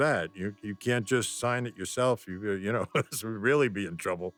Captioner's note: laughs